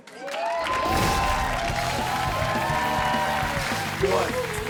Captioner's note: audience cheers; upbeat rock music